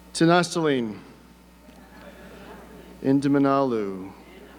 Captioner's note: speaking foreign language